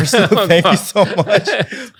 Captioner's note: laughing